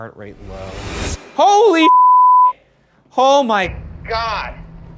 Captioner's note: beeps